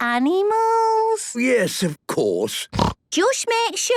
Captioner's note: snorts